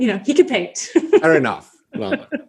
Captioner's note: laughs